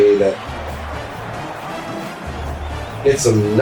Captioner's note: crowd Noises